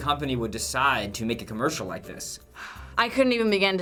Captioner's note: sighs